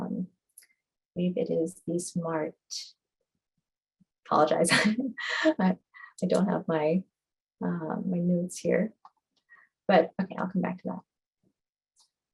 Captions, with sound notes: I think it is the smart. Apologize. [LAUGHTER] I don't have my notes here. I'll come back to that.